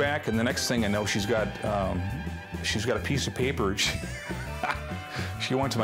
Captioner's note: chuckles